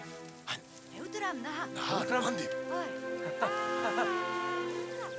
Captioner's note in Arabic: الصوت المنطوق الأجنبي